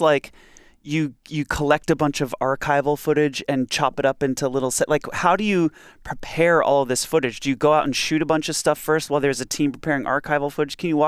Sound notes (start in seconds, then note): none